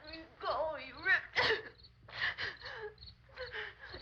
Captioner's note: gasping